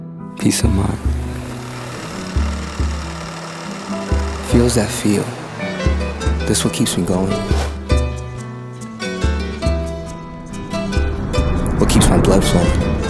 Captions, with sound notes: Peace of mind [Camera Roll Sound] Feels that feel This what keeps me going What keeps my blood flowing